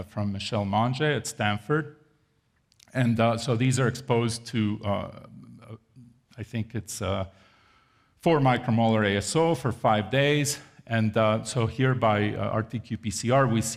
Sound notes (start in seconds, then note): none